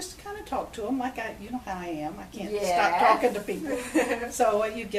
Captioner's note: both laugh